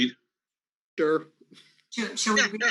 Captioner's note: laughs